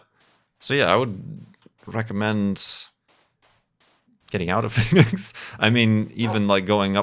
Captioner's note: snicker